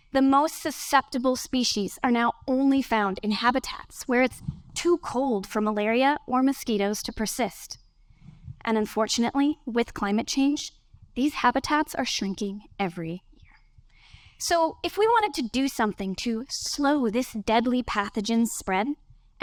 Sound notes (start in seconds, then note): none